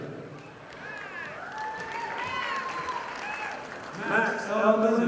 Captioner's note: audience applauding